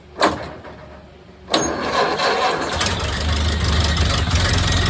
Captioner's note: engine cranking; engine sputtering/idling